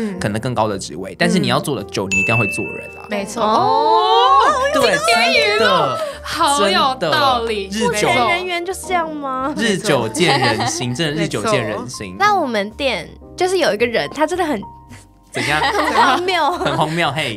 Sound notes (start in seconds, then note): 3.4 exclaims~; 15.4 laughing before talking?